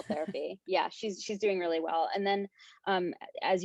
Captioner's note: chuckles